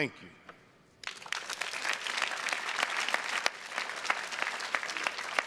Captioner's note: audience applauding